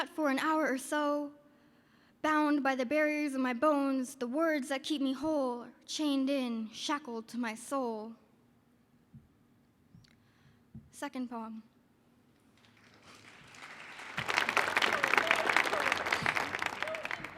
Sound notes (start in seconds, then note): 12.5 audience applauding